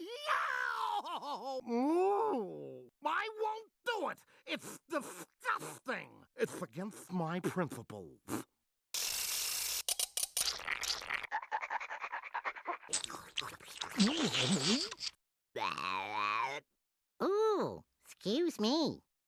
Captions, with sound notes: [crying] [muffled groaning] I WON'T DO IT. IT'S DISGUSTING! IT'S AGAINST MY PRINCIPLES. [panting] [Tweety salivating] [belching] OOH, EXCUSE ME.